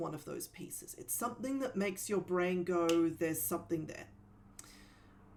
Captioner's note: snaps